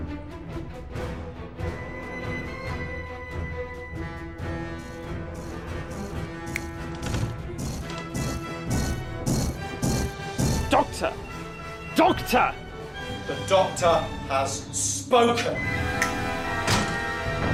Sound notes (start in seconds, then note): 4.7 doctor snaps finger; 15.5 doors closing; 16.0 snaps finger